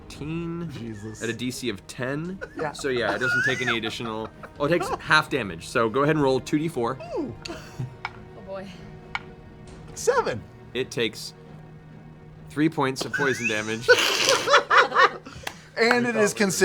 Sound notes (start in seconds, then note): 13.0 laughter